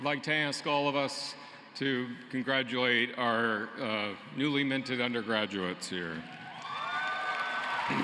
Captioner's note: cheering and applause